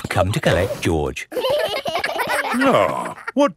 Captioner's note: giggling